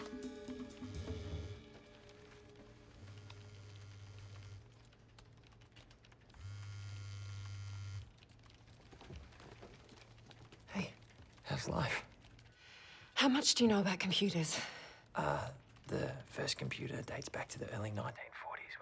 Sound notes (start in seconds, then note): 1.5 phone vibrates; 11.0 quietly